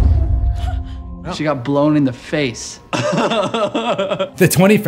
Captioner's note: laughter